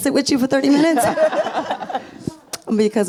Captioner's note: audience and panelists laughs